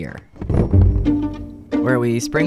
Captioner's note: crashing down